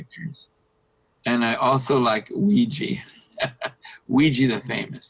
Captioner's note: laughing